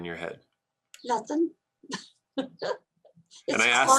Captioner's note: laughs